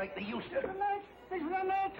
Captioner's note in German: Ängstlich